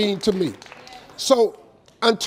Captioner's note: audience claps